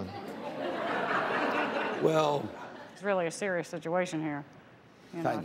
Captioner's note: laughter